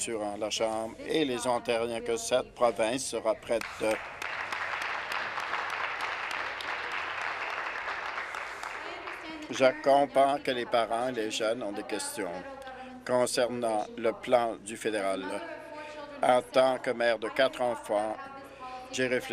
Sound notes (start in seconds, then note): 6.1 applause